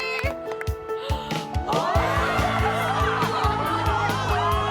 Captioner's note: uplifting music; cast gasping and cheering